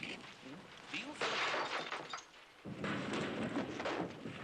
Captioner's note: glass crashing